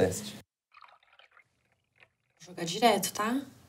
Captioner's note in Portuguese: barulho de líquido escorrendo